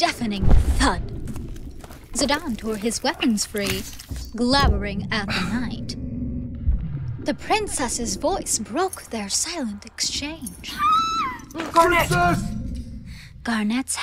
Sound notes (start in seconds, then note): 10.6 scream